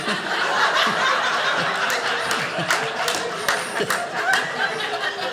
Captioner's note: audience laughing